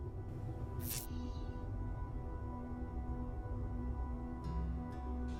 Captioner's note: anxious electronic music; electricity crackles